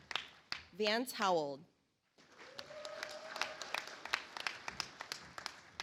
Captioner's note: audience applauds